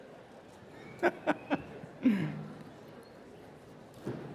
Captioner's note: laughter